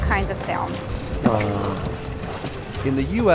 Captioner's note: trumpeting noise